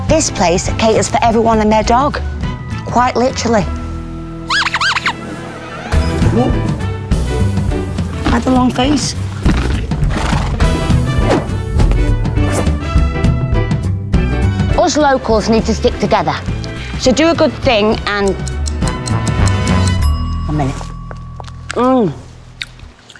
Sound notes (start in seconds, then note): 4.5 dog toy squeaks; 9.2 donkey exhales; 17.7 clock ticking; 18.2 timer dings